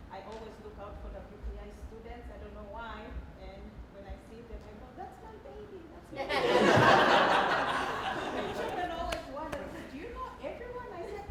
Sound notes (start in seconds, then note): 6.2 laughing